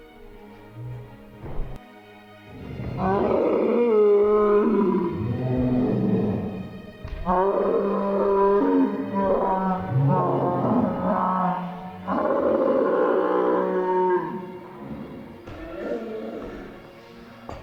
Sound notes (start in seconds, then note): 2.5 screams, crying